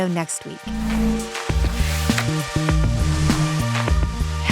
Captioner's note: screen whooshing